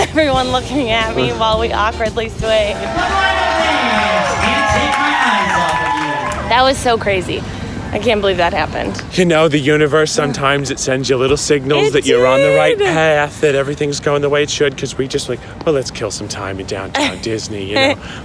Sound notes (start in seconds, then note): 2.6 crowd cheers; 17.7 giggles